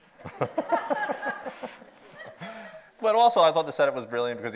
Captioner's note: audience laughs